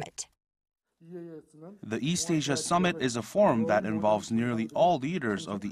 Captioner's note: Korean